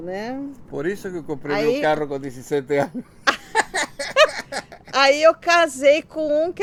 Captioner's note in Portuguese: risos